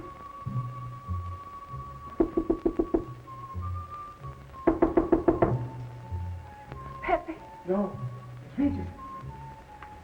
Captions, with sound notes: (knocking on door) - Pepe? - No. It's Regis.